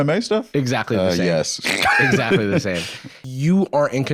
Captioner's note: laughs